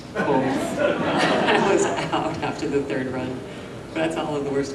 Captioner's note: laughs